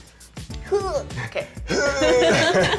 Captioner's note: grunting dramatically